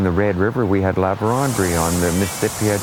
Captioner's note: river sound